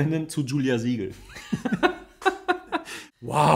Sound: laughs

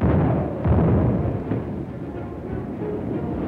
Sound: explosions

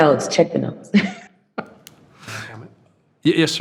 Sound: trustees chuckling

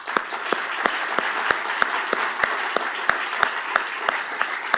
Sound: applause

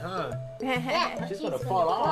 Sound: laughter

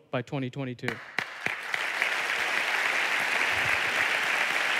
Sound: applause

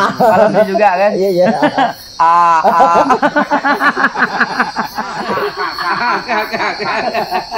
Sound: laughs

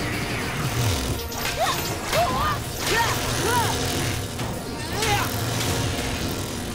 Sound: grunting

